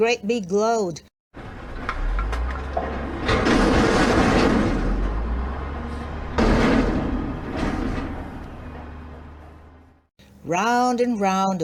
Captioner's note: dump truck sound